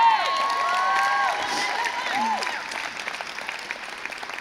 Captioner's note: crowd cheers